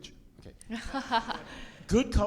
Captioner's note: audience laughs